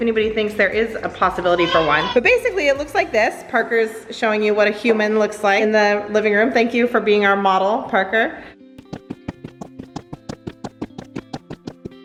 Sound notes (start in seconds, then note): 8.8 running sounds